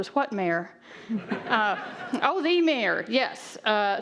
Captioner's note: audience laughing